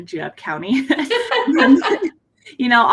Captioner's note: both laugh